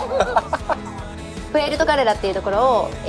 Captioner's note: laughter